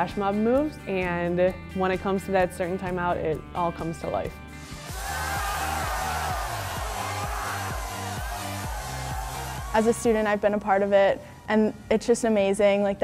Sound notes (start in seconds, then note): 4.6 pop music; 4.6 students cheering